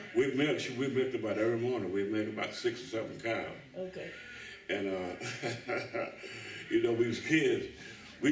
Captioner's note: laughs